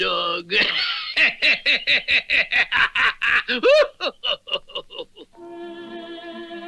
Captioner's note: Simon Bar Sinister Laughs